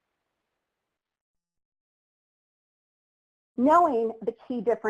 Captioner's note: silence